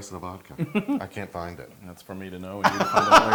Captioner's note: laugh